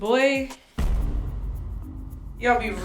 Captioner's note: explosion